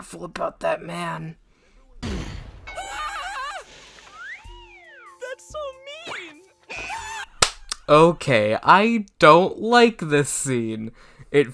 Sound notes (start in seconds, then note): 4.1 Izuku Screams; 4.2 slide whistle; 6.8 Izuku Screams Again; 7.4 clap